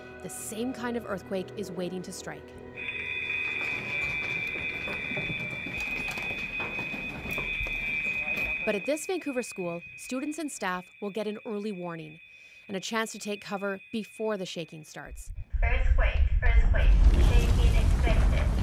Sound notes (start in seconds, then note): 7.9 earthquake alarm chimes